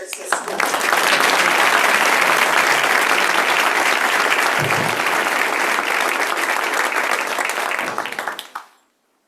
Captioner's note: applause